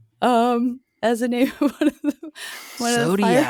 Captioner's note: laughing